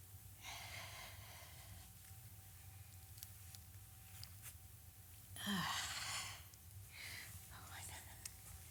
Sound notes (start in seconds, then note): 5.4 sighs